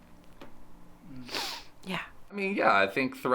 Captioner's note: sniffing